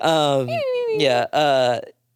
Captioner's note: mumbling